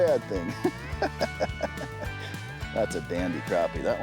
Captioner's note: he chuckles